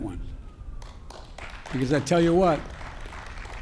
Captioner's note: applause